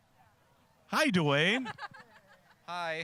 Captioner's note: laughing